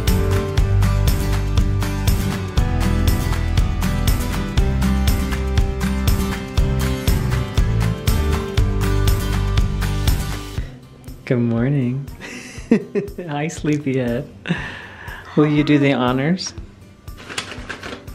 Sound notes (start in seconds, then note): 12.2 laughs